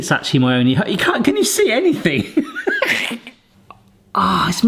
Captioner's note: laughs